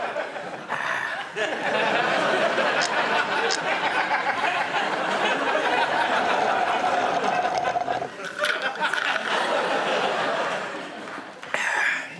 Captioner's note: slurping